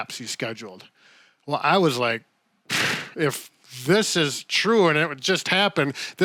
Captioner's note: exhales